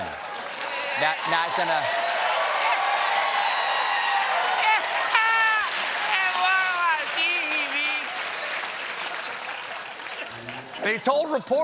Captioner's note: cheers and applause